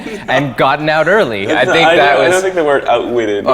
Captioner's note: laughing